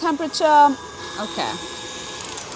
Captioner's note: mixer whirring